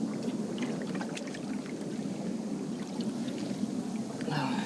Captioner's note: water splashing